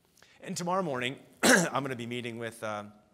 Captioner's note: coughs